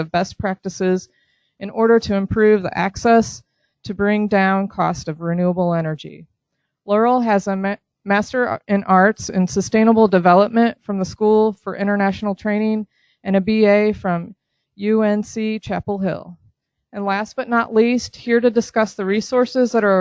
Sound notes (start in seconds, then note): none